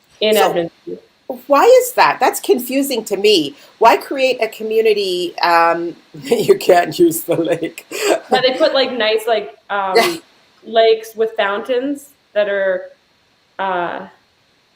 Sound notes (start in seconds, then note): 6.2 laughing